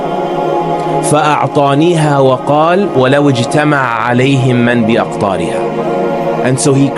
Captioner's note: speaking arbic